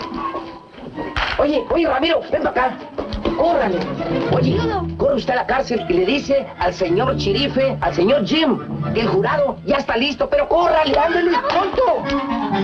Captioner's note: speaking spanish